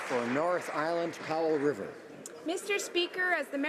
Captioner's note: some Applause